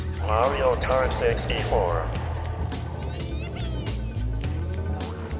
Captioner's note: none